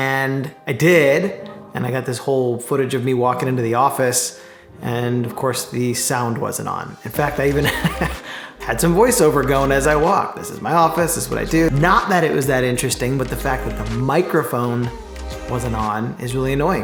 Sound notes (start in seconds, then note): 7.2 laughing